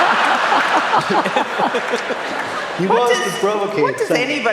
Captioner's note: laughter